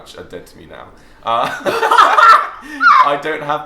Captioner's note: laughs